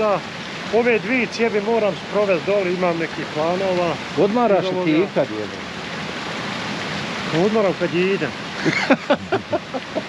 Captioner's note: laugh